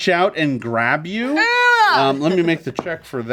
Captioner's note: Omelette whines